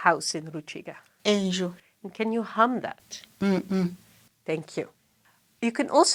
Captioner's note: hums